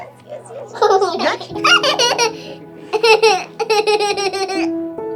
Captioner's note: giggling